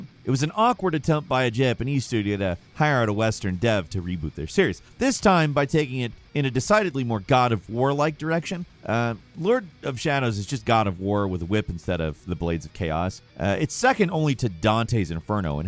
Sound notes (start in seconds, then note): none